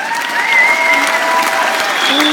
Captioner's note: cheers